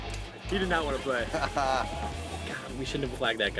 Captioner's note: laughing